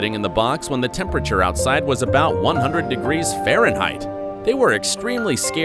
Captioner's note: indignantly